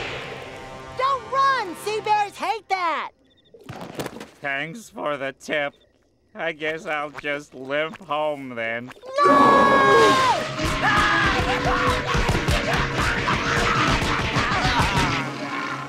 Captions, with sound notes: Don't run! Sea bears hate that! Thanks for the tip. I guess I'll just limp home, then. No! [screaming] [groaning]